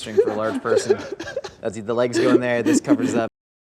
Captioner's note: laughing